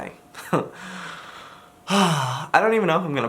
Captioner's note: sighs